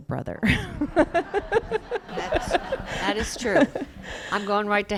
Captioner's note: laughter